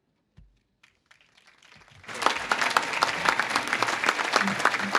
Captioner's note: audience claps